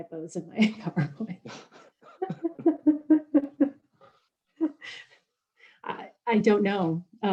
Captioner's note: laughing